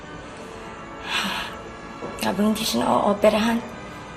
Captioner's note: sighs